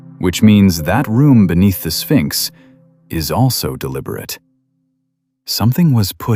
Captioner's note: breath